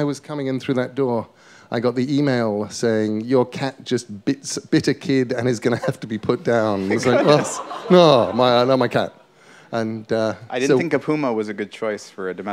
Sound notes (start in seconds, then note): 6.6 laughter